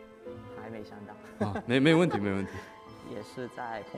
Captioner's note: laughs